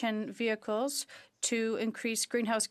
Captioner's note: speaking French